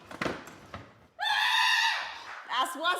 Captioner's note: screams